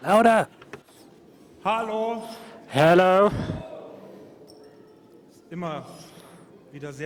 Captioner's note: applause